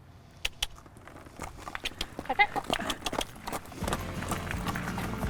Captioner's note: handler clicks teeth; horse hooves clicking